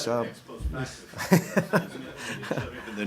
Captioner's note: laughter